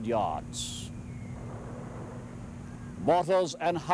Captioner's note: mortar fire whistling, booming